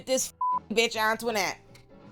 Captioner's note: beep